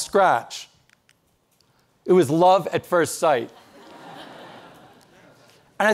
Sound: audience laughing

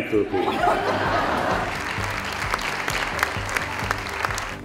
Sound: laughter, applause

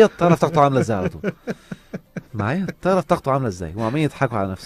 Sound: laugh!

